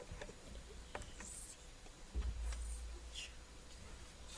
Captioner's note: students whisper